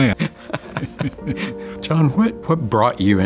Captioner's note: both laughing